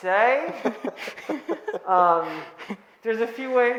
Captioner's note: laughing